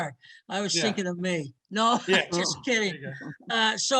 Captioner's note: laughs